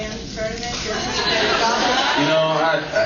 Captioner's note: laughs